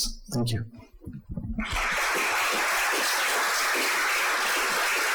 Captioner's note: audience applauds